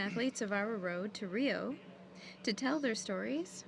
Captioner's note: speaking french